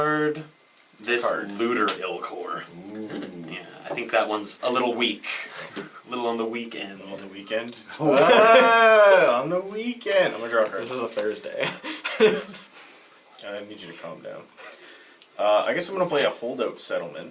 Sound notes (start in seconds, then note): 7.9 all laugh